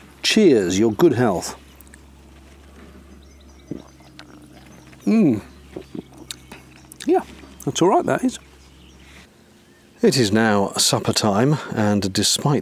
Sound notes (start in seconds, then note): 2.6 audible gulp